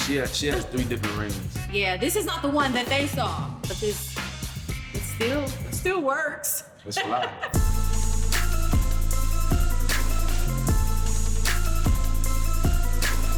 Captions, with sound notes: - She has three different rings. - Yeah, this is not the one that they saw, but this still works. (laughs) - That's a lot. (instrumental hip hop music)